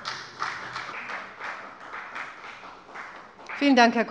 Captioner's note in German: Beifall bei der FDP